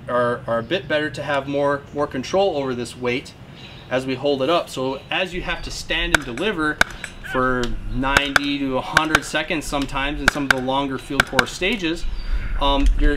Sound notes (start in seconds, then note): 5.9 gun firing